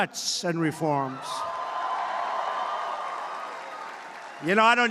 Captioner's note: applause